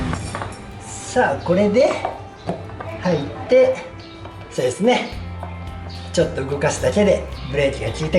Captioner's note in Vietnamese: cười